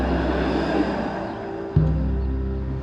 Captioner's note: street noise